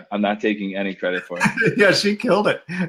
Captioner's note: laughing